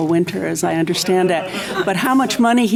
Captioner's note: chuckles